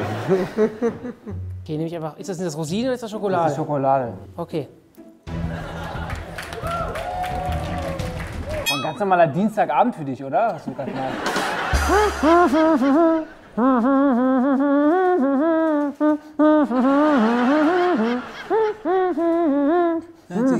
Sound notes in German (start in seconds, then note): 0.2 kichert; 5.4 Lachen, Applaus, Jubel; 10.9 Gelächter, undeutliches Nuscheln; 16.4 Gelächter, summt weiter